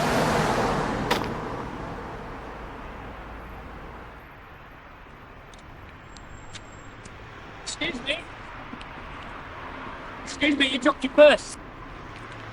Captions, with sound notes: (wallet thuds) Excuse me. Excuse me, you dropped your purse.